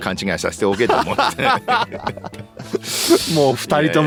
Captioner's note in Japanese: 笑い